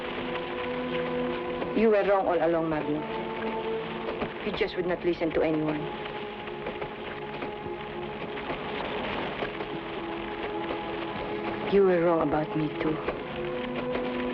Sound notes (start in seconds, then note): 0.2 suspenseful music; 8.5 flames crackle